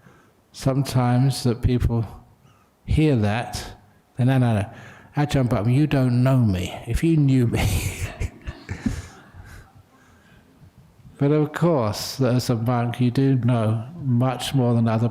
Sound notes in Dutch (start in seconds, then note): 10.2 lachen